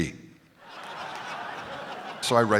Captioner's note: crowd laughing